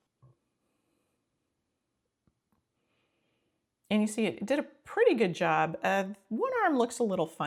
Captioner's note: silence